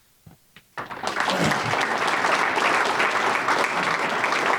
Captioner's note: audience applauding